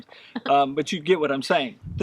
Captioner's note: laughs